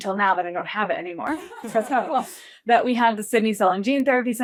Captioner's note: laughs